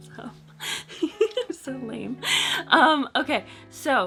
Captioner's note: giggles